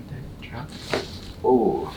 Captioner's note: body cracking